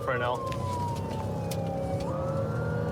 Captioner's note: siren blaring